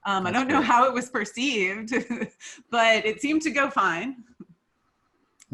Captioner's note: laughs lightly